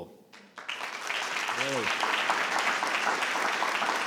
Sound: all clapping

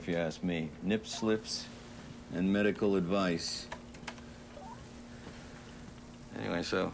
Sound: keyboard clacking

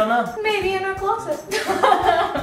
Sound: laughs

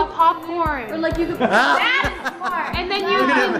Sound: laughing

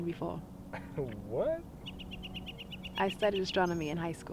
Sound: chuckles

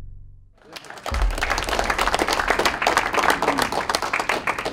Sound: clapping

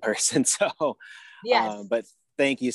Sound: chuckles

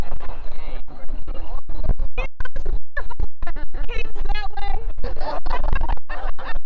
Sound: laughter

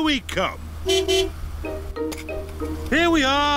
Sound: honks horn

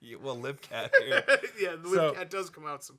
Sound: Dan laughing

